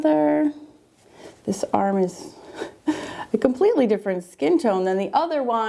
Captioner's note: laughs